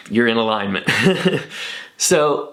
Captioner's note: laughs